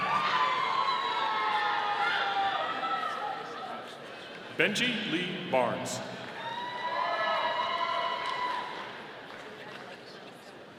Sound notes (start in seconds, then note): 0.0 audience cheering; 6.6 audience applauding